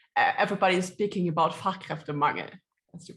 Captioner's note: speaks foreign language